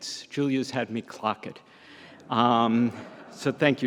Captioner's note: audience laughs